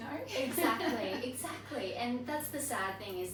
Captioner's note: laughs